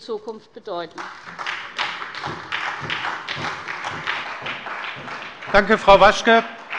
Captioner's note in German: Beifall bei der SPD